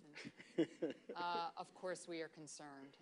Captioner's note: laughter